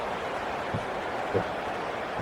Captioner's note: crowd Noises